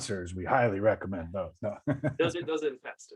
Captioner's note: laughs